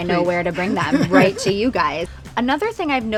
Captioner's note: laughing